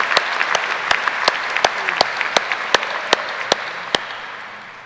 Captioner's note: applause